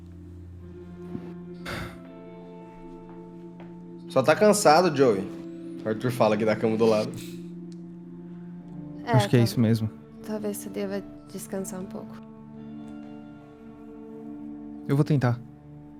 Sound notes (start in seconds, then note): 1.6 sighs